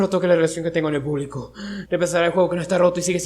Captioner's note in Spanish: respirar